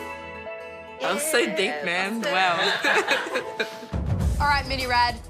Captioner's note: laughs